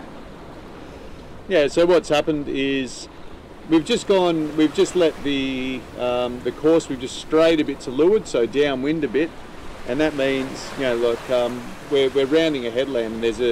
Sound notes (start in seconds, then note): none